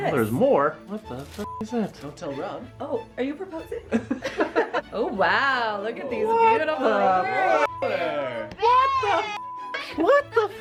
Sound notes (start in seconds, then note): 4.3 laughs